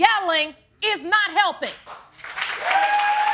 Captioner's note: audience cheering